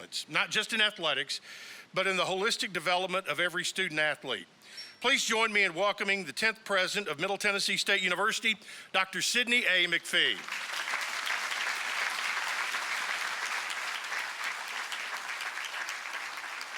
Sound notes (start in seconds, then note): 10.2 applause